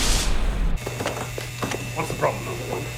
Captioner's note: buzzing